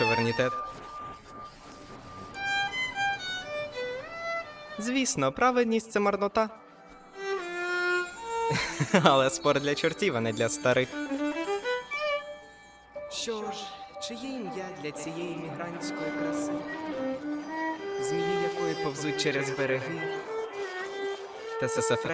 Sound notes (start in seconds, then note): 8.4 chuckling